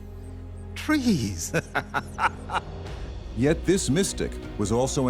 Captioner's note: laughs